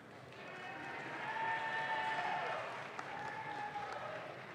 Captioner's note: audience claps